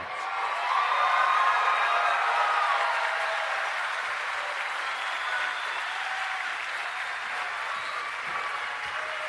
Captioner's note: applause